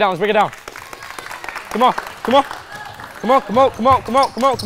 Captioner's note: participants clapping